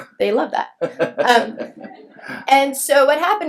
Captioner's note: laughs